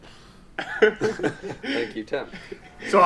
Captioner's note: all laughing